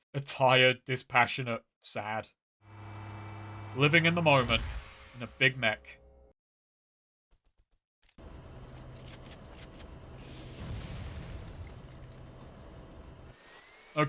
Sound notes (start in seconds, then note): 5.8 dead silence; 8.5 weapons clunking; 10.3 explosion; 11.8 machinery whirring